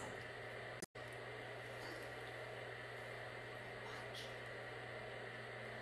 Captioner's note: whispering